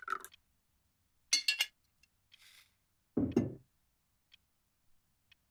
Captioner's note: liquid pours; bottle clinks; clock ticking continues